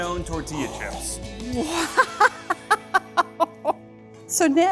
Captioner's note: laughs